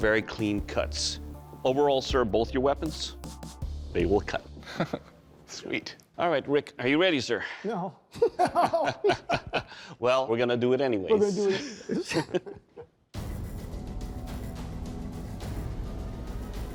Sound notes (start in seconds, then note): 4.6 laughs; 8.1 laughter; 11.2 laughter